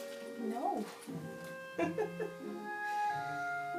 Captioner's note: giggle